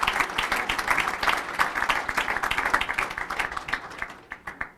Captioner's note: applause